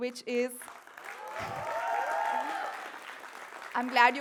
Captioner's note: applause & cheers